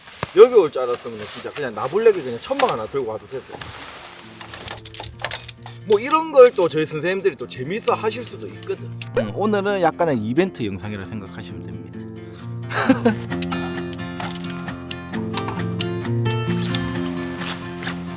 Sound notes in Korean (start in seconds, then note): 12.7 멋쩍은 웃음